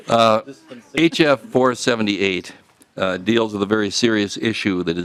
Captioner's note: laughing